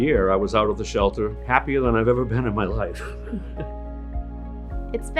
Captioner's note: laughs